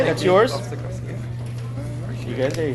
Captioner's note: people chattering